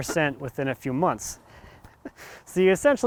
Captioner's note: laughs